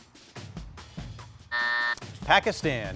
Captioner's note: suspenseful music; buzzer buzzing